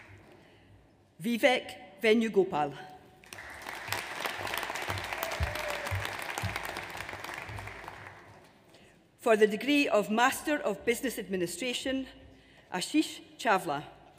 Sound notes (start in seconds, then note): 3.2 audience applauds